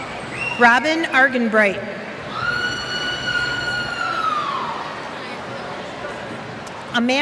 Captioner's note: cheers